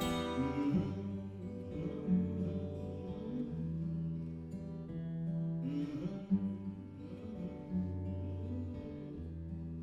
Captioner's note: humming